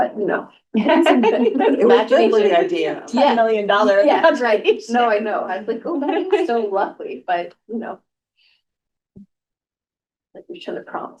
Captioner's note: laughter